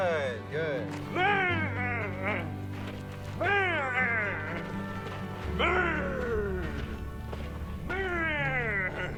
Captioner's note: growling